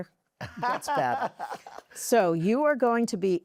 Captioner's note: laughter